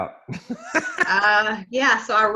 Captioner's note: laughs